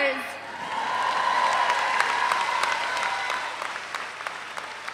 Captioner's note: audience applauds